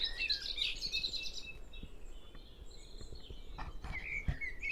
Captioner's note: bird song